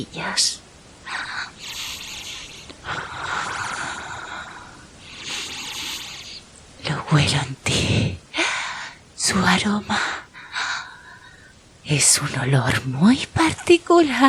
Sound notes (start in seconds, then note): 0.9 humming